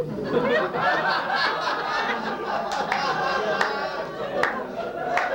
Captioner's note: laughter